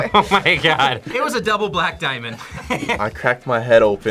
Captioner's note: laughs; laughs